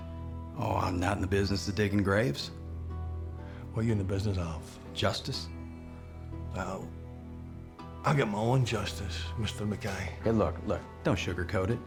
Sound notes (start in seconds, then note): 3.6 scottish accent; 6.2 scottish accent